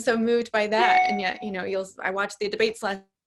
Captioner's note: notification chimes